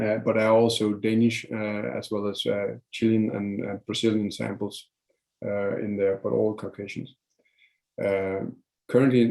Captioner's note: foreign language